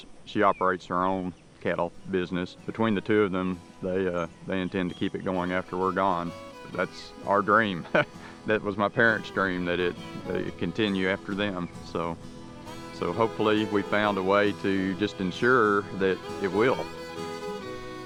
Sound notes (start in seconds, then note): 6.0 laughs